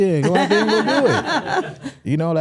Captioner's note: hosts laughing